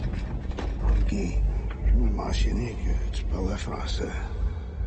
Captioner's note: LaFleur speaking French